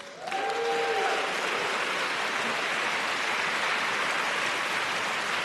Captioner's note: audience cheers and applauds